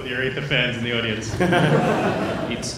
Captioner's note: laughter